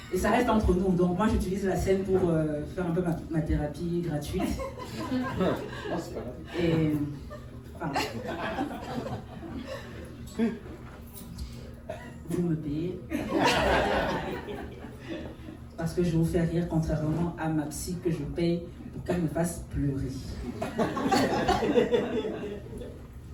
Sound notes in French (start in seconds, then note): 4.4 rires; 13.1 rires; 20.4 rires